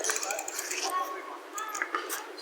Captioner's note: freewheel clicking